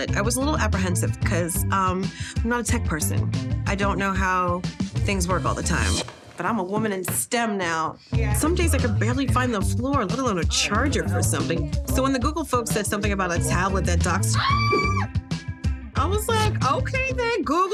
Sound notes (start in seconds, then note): 14.3 scream